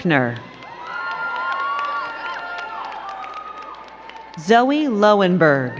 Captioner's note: crowd cheering and clapping